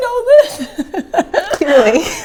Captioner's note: laughing